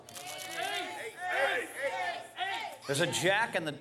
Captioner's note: Crowd chanting 'Ace'